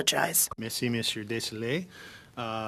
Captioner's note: speaking french